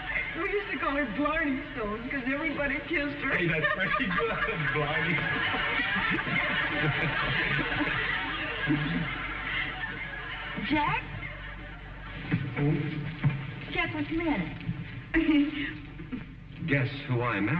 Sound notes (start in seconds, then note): 4.7 laughs; 7.3 audience laughing